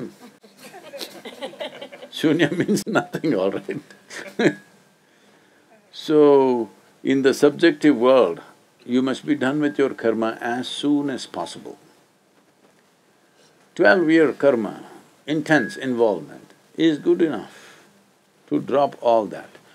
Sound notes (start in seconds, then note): 0.0 laughter; 5.0 laughs